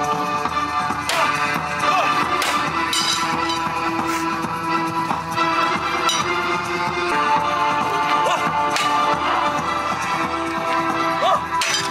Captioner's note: thriller Music; sword sounds